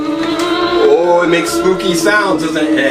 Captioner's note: spooky sounds